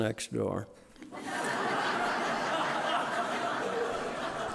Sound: audience laughing

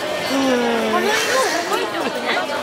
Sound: audible stress sigh

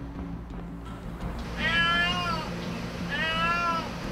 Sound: A cat's crying

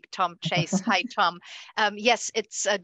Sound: chuckling

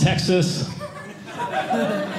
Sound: audience laughing

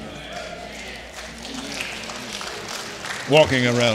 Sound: congregation applauding

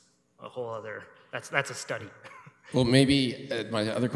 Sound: chuckles

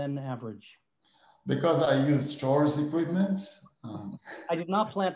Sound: chuckles

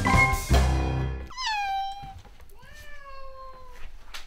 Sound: cats meow

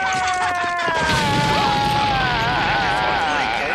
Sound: explosion

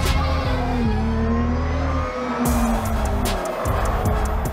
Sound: engines roaring; intense action music; tires screeching

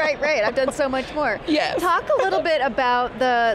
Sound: laughs

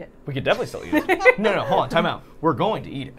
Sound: Safiya and Carly laughing

